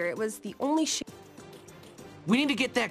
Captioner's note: audio cuts out